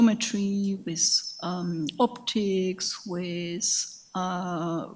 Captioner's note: speaks in a foreign language